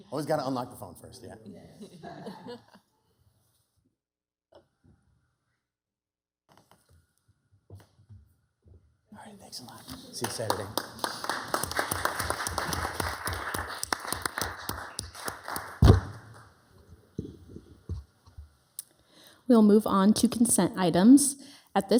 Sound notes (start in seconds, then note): 1.8 city council members chuckle; 11.8 members and attendees applauding